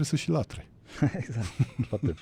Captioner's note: laughter